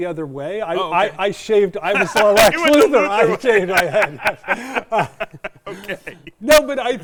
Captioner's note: both laughing